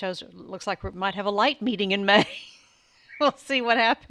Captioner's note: chuckles